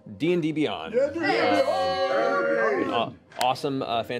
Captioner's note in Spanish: vítores